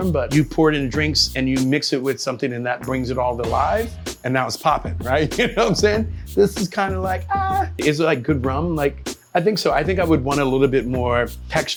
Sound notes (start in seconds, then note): 5.5 laughing